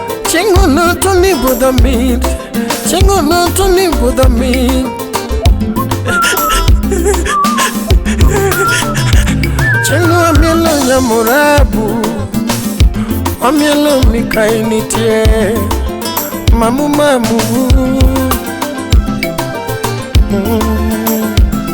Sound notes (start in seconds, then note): 6.3 mourning in the background